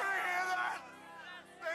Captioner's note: crowd cheering